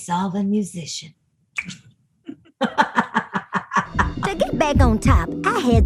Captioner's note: tongue click